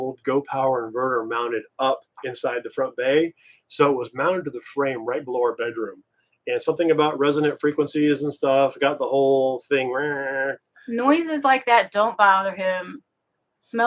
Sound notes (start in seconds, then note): 9.8 mimics humming sound